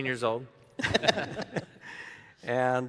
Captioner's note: audience laughing